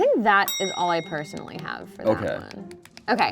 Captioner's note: bell clicking sound